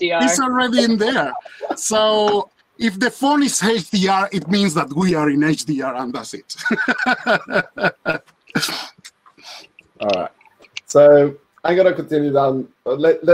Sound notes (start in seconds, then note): 6.4 laughs